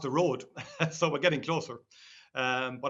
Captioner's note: laughs